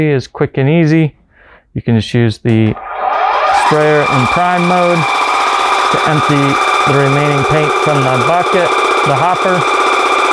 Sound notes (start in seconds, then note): 4.7 machine whirring